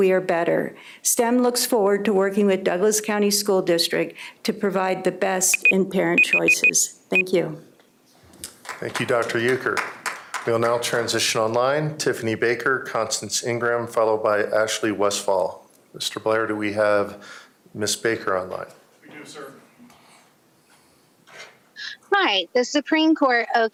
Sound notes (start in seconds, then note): 11.6 applause